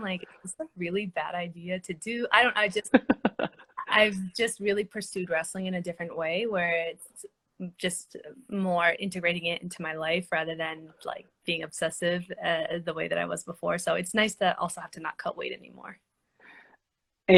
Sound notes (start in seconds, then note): 2.9 laughing